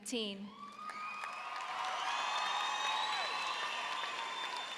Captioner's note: audience cheers